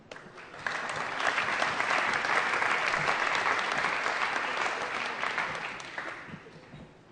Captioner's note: applause